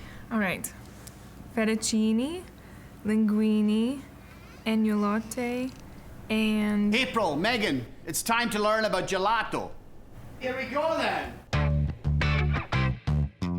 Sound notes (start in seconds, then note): 6.9 with Scottish accent; 11.5 upbeat funky music